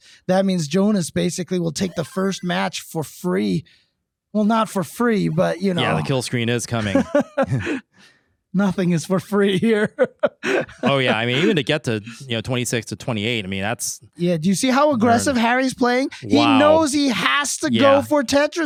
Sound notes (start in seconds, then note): 9.4 laughing